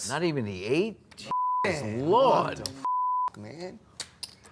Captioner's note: beep